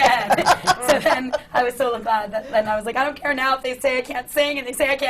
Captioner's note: laughs